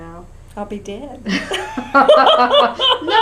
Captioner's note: laughter